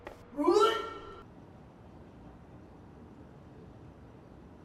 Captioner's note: Nicole retching